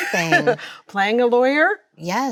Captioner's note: Chloe laughs